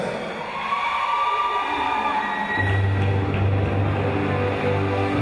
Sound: crowd cheering

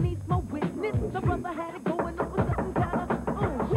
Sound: knocking

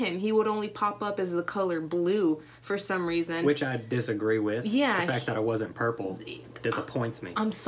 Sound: none

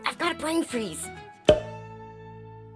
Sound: pop

